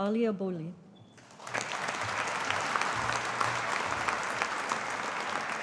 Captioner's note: audience applauding